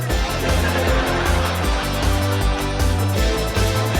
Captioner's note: audience laughs